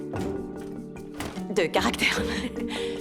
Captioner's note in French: bruit de porte